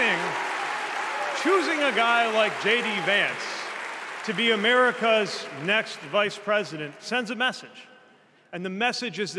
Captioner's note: applause